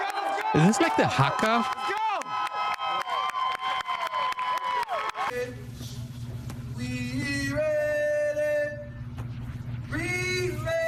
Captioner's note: cheering